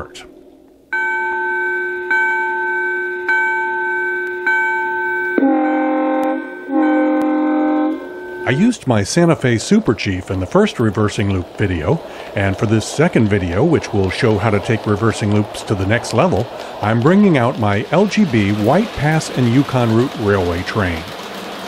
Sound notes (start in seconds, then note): 0.9 sound of the train's bell ringing; 5.4 sound of the train's horn blowing